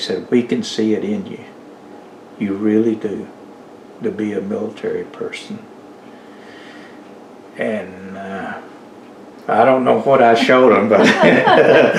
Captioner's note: laughter